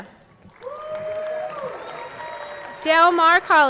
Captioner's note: audience clapping; audience cheering